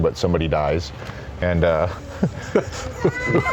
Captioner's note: laughs